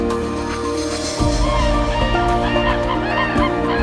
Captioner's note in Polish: Odgłosy żurawi